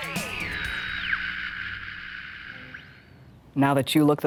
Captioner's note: energetic upbeat music continues; radio crackling